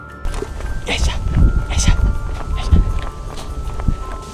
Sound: sounds of effort being put in

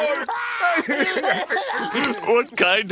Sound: continued crying sounds

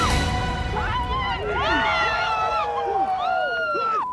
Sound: cheering

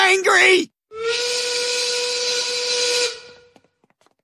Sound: steam whistle blow

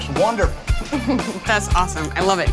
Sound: laughs

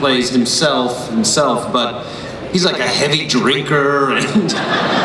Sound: everyone laughs

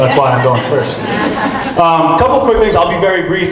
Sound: group laughs

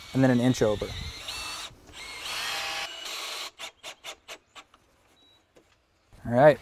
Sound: drill whirring, no additional audio

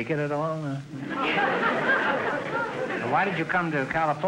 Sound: audience laughter

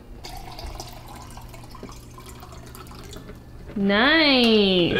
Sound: water pouring

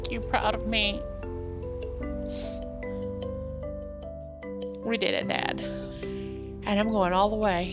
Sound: sniffling

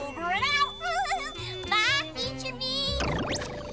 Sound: laughs

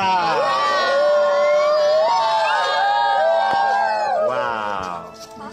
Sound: cheering

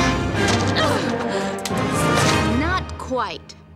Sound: Mulan groans

